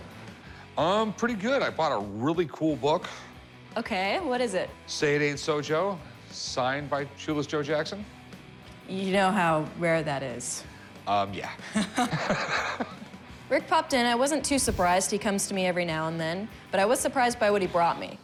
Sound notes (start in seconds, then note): 11.6 both laugh